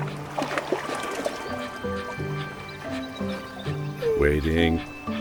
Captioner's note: water burbling; playful music